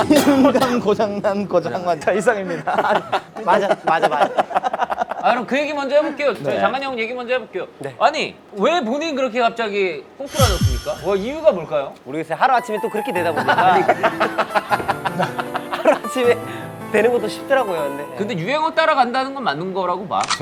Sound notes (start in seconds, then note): 13.9 laughing